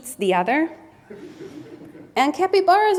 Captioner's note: audience members laughs